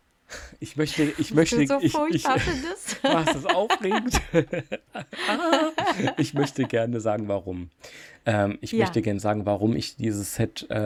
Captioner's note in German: gelächter